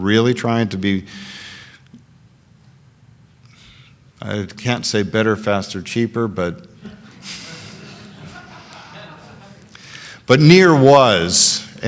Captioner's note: laughter